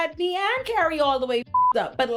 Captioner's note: beep